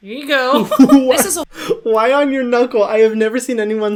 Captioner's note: Hyram laughs